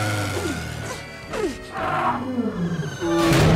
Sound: panting

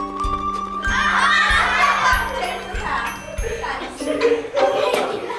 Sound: children chattering

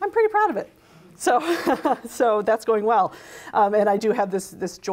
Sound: laughs

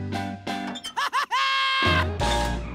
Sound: laughing

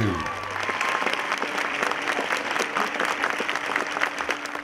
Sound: cheers and applause

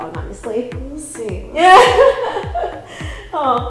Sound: Cassey laughing

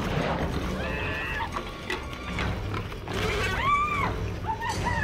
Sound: screaming

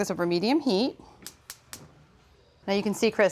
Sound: burner igniter clicks

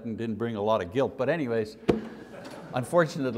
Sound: laughter

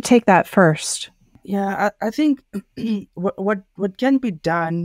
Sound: clears throat

